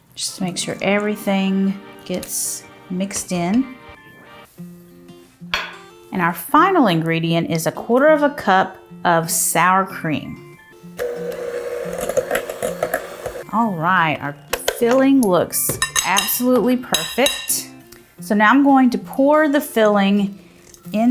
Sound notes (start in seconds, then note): 10.1 bright upbeat music; 11.0 mixer whirring